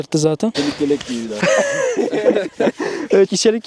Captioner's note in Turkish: Gülüşmeler